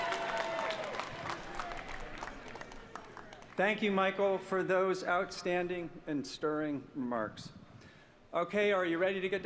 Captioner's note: applause